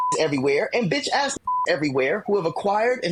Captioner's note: beep